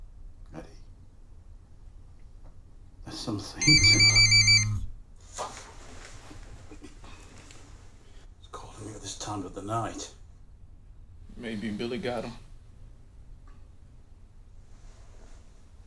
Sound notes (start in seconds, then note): 3.6 phone ringing